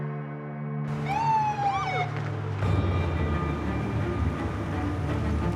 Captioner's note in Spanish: sirena de patrulla policial